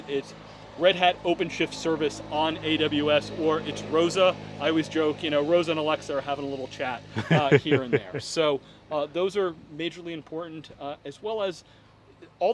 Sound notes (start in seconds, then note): 7.1 laughing